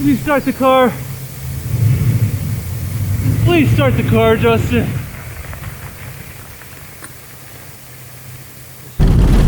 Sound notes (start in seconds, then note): 1.8 car engine humming; 5.7 tires scrunching